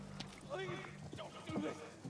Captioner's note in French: Voix lointaine